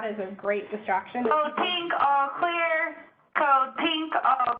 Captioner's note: loudspeaker